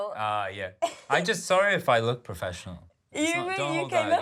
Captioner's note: laughs